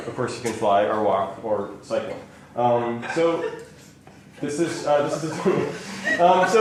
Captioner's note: laughter